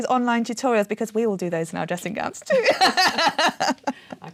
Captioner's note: laughing